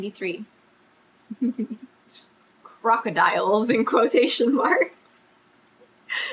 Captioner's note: laughs